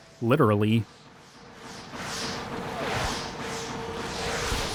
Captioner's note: whooshing